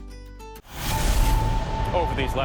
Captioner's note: dramatic sound